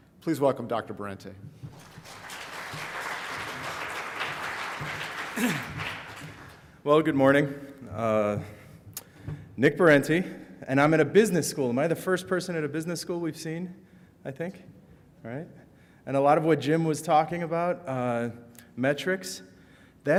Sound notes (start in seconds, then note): 1.6 audience applauds